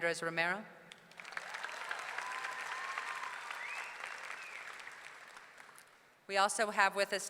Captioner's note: audience clapping; audience cheering